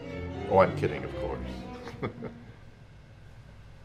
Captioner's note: chuckles